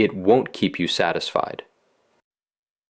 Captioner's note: pause